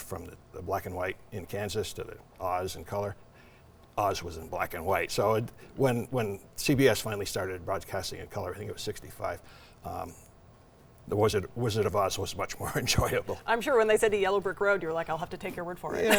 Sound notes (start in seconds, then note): 12.8 laughs